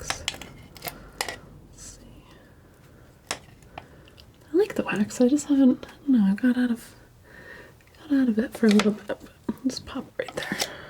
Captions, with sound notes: let's see (scratching) I like the wax, I just haven't, I don't know, I got out of got out of it for a little bit just pop right there